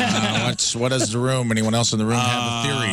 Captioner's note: laughing